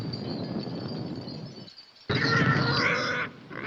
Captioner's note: squealing